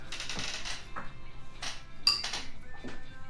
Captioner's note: chair squeaks